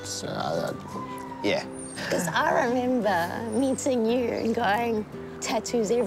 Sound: laughs

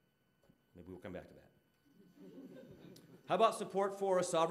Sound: audience laughing

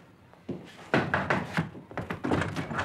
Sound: knocking on door

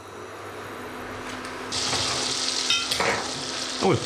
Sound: fan whirring

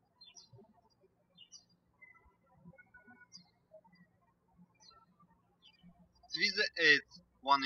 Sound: birds chirping

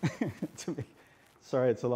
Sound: laughs

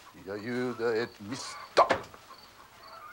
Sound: none

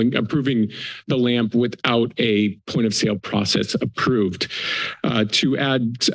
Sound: inhales

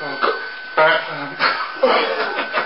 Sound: giggles

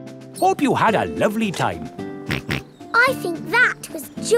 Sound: snorts

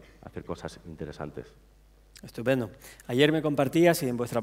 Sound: speaking spanish

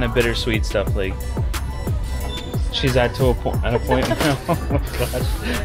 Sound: laughing

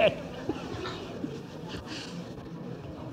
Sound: laughs

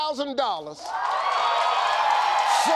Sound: cheers and applause

